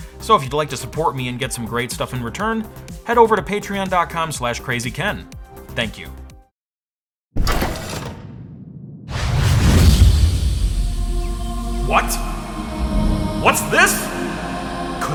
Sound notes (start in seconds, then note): 7.4 door whirring; 9.4 explosion!; 9.8 angelic music